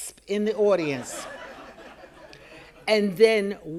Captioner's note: audience laughing